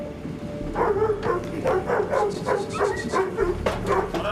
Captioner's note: whistles, commands dog